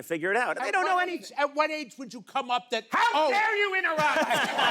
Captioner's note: O'Brien shouts; audience laughs